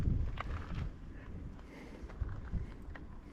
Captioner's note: wind blowing